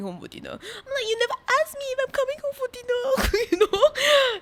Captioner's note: laughs